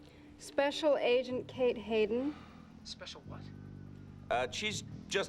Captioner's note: none